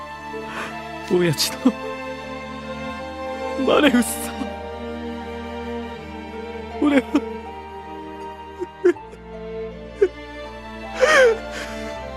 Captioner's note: cries